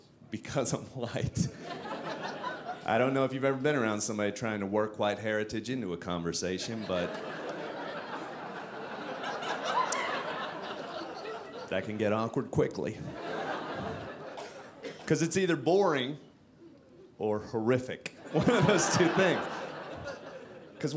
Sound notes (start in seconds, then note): 6.6 audience laughing